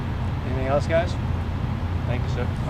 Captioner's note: male Voice